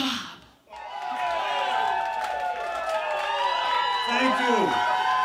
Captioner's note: cheers